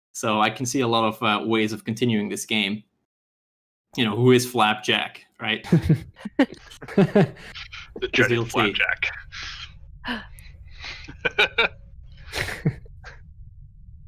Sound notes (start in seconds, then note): 5.6 laughter